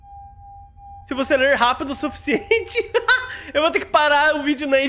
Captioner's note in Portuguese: risos